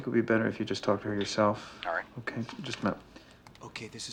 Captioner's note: on phone